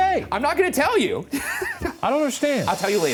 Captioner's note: chuckles